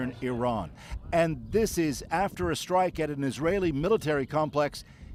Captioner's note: none